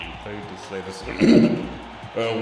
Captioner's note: clears throat